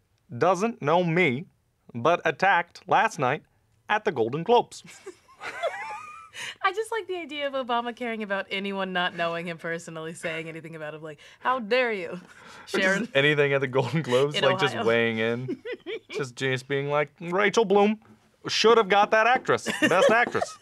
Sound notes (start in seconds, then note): 4.8 laughter; 13.8 giggles